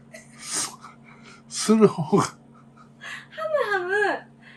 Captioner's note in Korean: 웃음